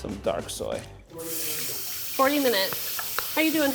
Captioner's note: sizzling